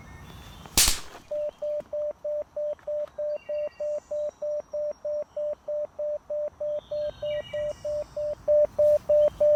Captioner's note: beeping